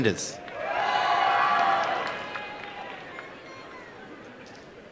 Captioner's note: applause and cheering